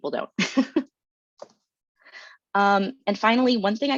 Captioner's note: chuckles